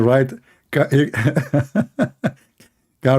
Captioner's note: Ketawa